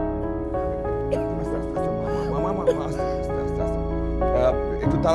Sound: coughing

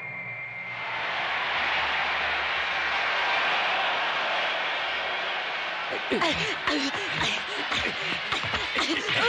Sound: applause

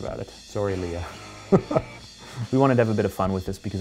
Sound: laughing

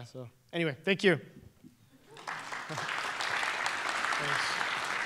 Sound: applause

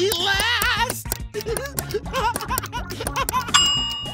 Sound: laughing

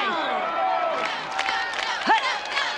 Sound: crowd cheering

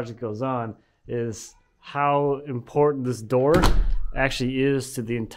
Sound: door thumping

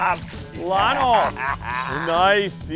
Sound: laughs loudly

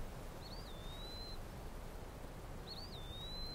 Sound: birds chirping

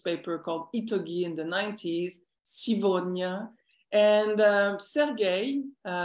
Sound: non-english speech

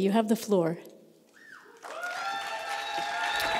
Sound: applause

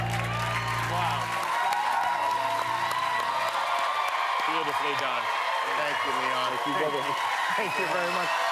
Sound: cheers and applause

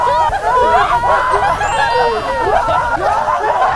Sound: laughter in full boom

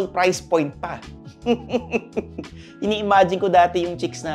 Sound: laughing menacingly

